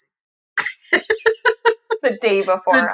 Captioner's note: laughing